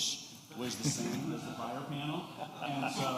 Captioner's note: laughter